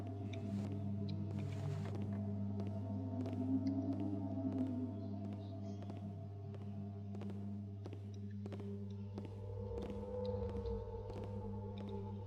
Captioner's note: distant footsteps on wood